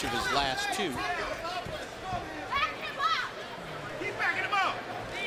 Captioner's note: none